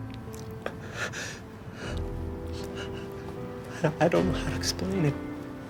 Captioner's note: stammers